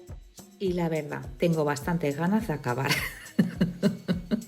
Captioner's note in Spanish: risas